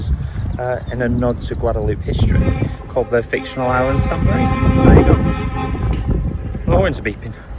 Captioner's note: motor horn blasts